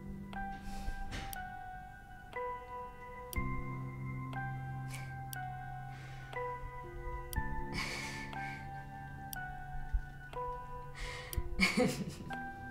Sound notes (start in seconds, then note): 8.4 laughing